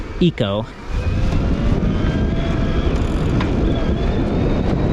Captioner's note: motor humming